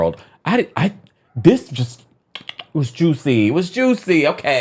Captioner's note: smacks lips